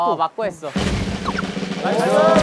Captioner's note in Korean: 푸드덕